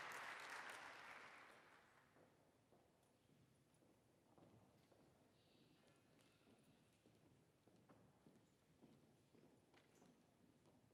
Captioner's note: applause